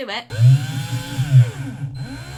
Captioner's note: drill whirring